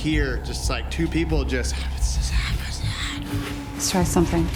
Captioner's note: raspy whispering